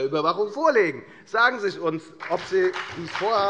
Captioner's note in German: Beifall bei der FDP und bei Abgeordneten der SPD